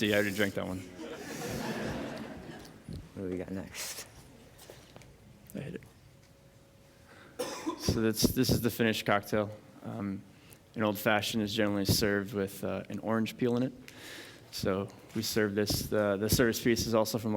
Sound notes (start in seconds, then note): 0.8 laughter